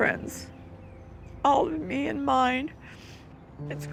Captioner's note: sniffles